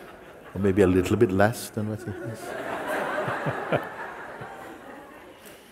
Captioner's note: Lachen; Lachen